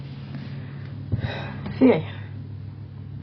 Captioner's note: sigh